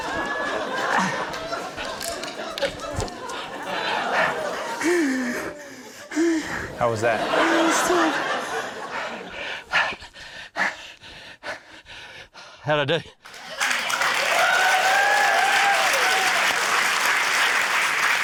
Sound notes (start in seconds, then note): 1.1 grunts; 3.8 laughter; 5.0 breathes shakily; 9.9 breathes heavily; 13.2 cheering, applause